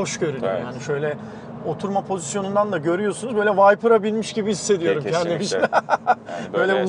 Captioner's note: laughs